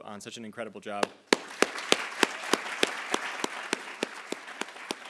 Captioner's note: attendees applauding